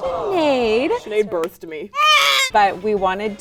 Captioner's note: baby crying